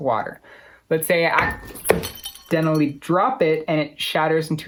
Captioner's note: glass bounces and shatters